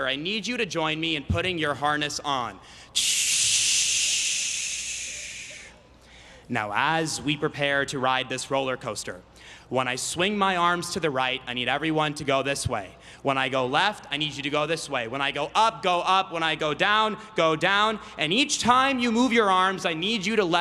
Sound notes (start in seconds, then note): 2.7 imitating air brakes